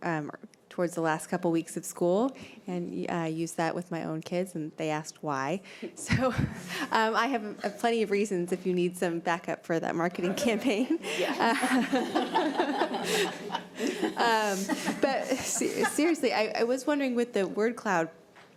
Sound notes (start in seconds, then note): 10.3 laughter